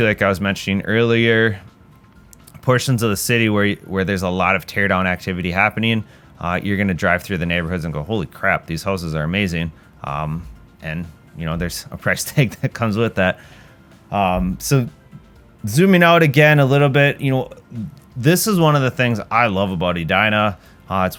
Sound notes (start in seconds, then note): 12.3 chuckles